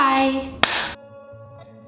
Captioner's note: clap